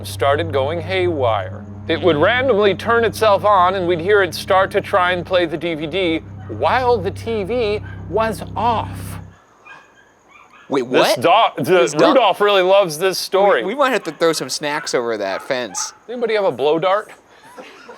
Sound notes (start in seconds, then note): 9.2 Rudolph whimpering; 17.8 crew laughing